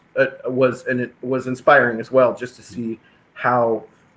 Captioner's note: none